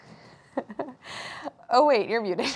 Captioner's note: laughing